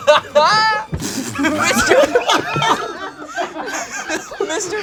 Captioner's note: group laughs